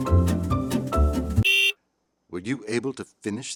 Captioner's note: car beep